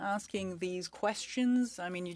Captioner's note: speaking French